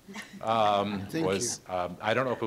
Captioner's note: audience laughing